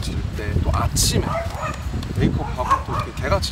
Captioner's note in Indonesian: Bark!